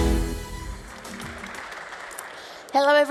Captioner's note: applause